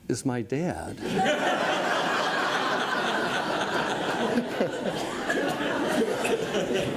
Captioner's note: audience laughs